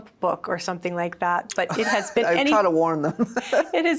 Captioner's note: laughs